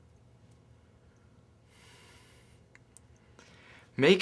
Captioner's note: Dillon exhales